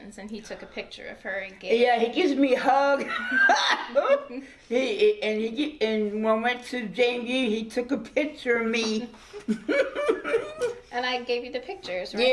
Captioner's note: laughing